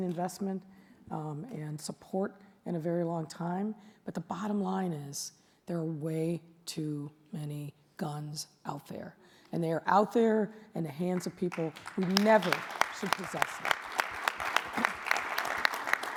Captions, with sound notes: investment and support in a very long time but the bottom line is there are way too many guns out there and they are out there in the hands of people (audience applauds) who never should possess them.